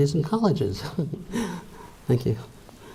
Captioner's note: laughs